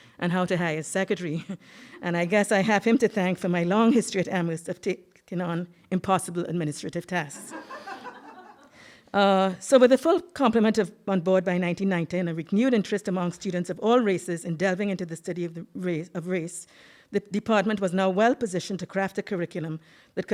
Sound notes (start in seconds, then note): 7.4 audience laughing